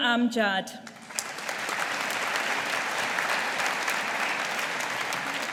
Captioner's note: audience applauding